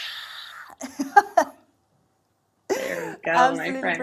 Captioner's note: laughs